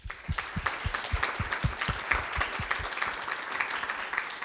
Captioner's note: audience applauds